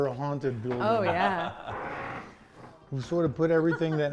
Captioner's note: laughing